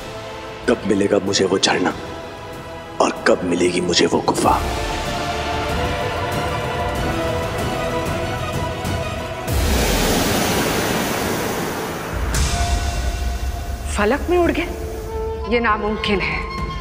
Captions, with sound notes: 'Or that waterfall.' 'Or when I'll get to see that cave.' [suspenseful music playing] [water gushing] 'They vanished into the sky!' That's impossible.